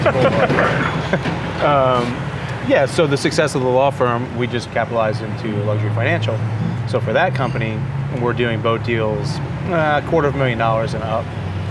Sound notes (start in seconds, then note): 0.0 loud truck engines; 1.8 both laugh